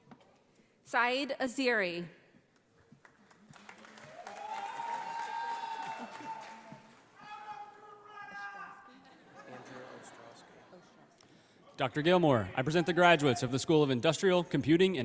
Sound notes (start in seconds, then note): 3.0 audience applauding; 8.8 audience laughing